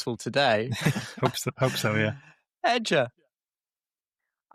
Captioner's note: chuckles